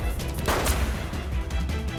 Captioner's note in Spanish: Disparo